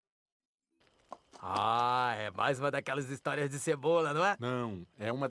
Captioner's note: brazilian portuguese